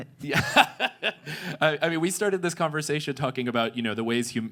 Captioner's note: laughs